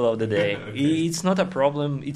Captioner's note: laughs